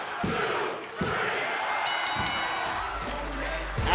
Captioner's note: crowd cheering; bell ringing